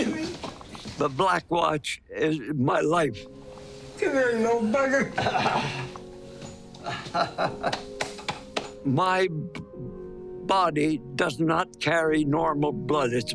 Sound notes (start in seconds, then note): 6.7 chuckling